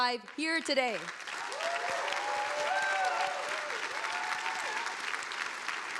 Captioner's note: audience applauding